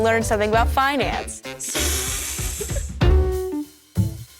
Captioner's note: laughs